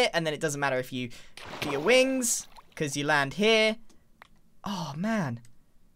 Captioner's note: none